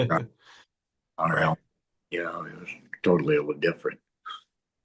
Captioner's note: laughs